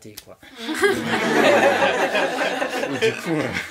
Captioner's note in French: rires